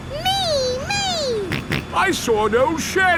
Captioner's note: snorts